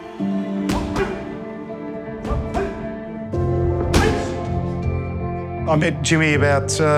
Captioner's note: grunting